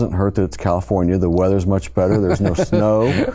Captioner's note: laughs